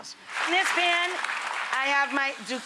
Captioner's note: clapping